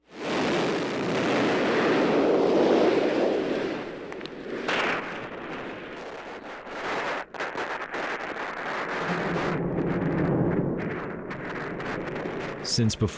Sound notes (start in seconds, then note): 0.0 roar of rocket engines